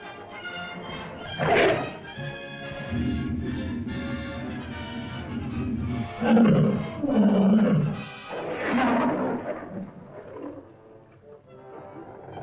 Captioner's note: suspenseful music; lizard growls